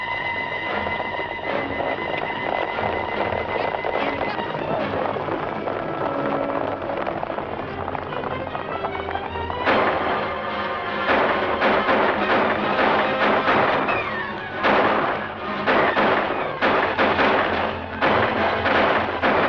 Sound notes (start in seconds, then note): 0.2 dramatic music; 9.2 gunshots